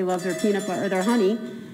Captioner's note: cow bell